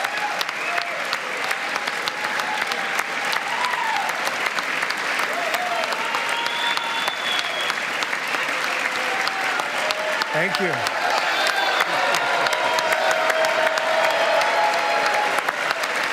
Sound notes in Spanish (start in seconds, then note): 6.0 aplausos; 8.1 gritos